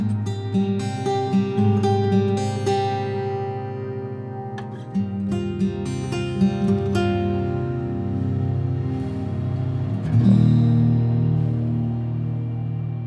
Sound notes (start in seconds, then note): none